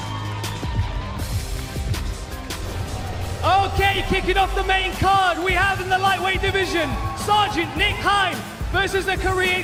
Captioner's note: applause